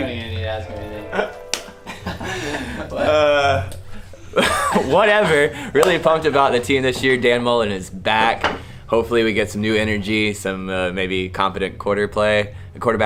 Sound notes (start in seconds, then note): 1.8 laughs